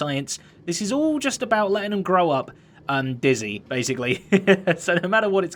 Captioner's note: chuckles